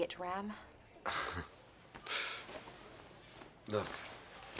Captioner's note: scoffs